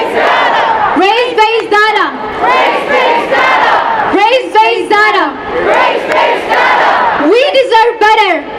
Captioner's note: chanting